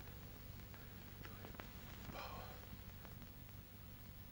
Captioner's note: whispers